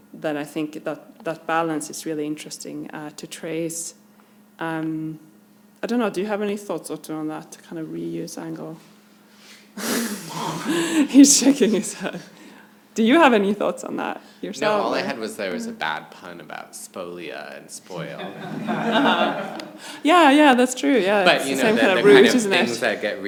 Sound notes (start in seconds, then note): 9.8 chuckles; 18.0 audience laughs